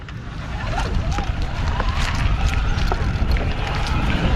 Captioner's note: bicycle motor roars